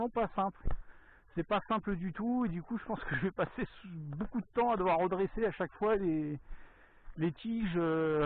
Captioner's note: laughs